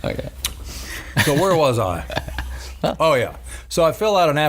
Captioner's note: laughing